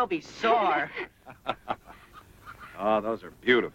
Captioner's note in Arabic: يضحك